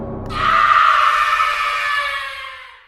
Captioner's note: horror scream